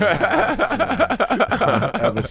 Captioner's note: laughing